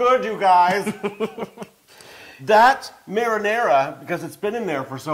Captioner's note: laugh